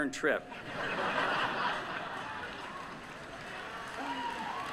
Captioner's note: laughter